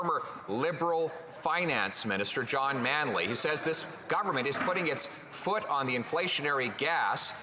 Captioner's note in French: voix de l'interprète